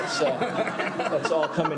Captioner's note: laughter